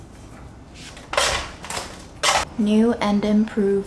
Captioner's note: scrapping sound